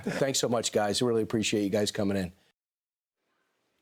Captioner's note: laughter